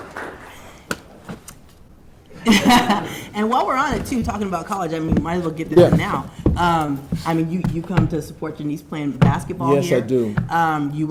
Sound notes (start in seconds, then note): 2.3 audience chuckling